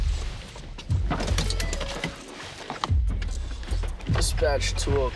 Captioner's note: car beeps